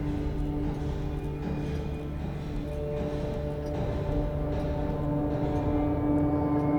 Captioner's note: brooding music; clock ticking